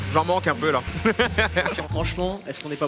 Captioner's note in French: rires